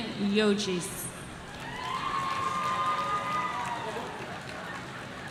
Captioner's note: audience cheering